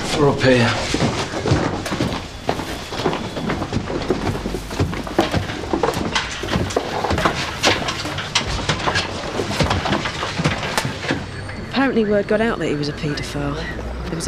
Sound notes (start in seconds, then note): 1.5 footsteps thudding